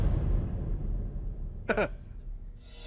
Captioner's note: chuckles